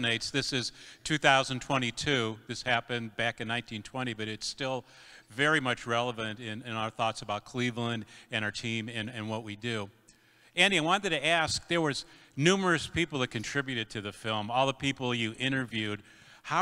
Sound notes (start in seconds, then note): none